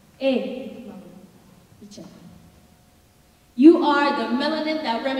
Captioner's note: speaking in foreign language